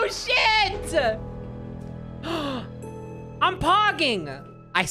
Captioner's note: gasps